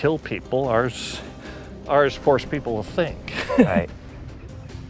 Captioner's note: laughs